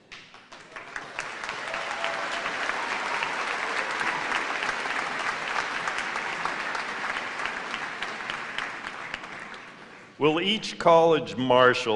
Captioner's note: cheers and applause